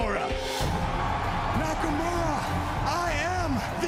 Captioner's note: crowd cheering